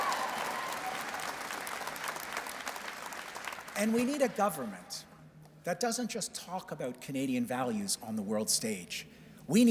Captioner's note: cheers and Applause